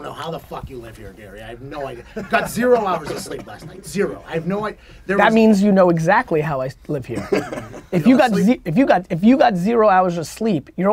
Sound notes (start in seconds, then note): 7.1 group laughter